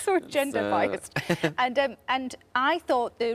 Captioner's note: Tom laughs